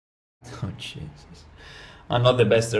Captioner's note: whispered